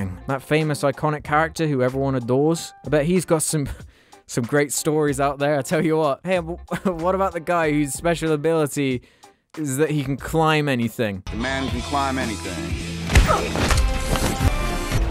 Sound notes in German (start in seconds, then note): 13.1 Schlag